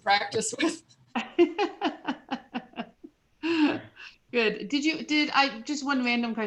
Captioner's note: laughter